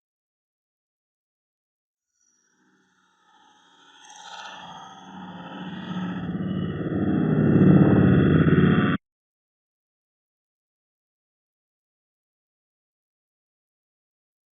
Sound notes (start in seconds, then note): 1.5 silence conts; 9.1 long intentional silence